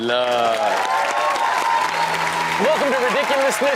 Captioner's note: audience cheers